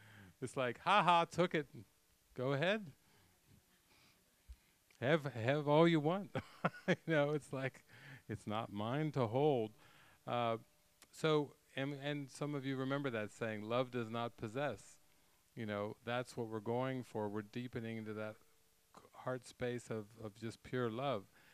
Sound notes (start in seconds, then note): 6.4 laughing